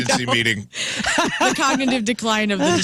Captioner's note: laughing